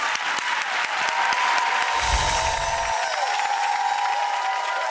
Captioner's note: audience cheering